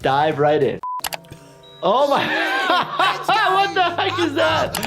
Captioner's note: laughing